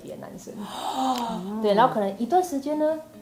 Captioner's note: gasping